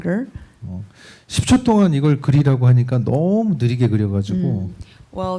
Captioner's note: speaking korean